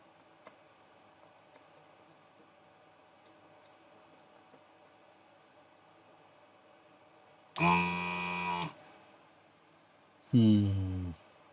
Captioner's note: buzzer